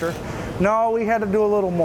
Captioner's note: drill buzzes